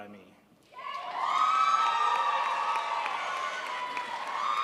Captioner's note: crowd applauds